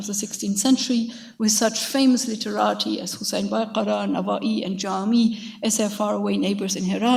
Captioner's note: speaks in a foreign language